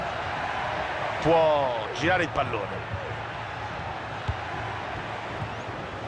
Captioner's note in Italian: Applauso